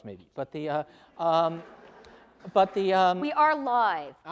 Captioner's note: laughing